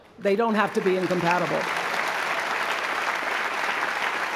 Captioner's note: applause